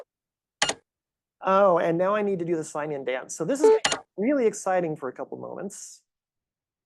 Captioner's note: click